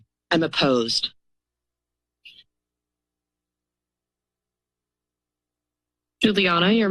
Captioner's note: silence